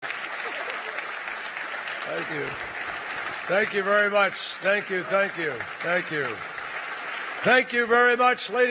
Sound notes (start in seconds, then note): 4.1 applause